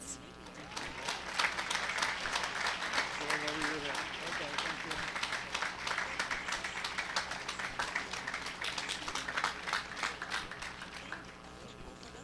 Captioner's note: applause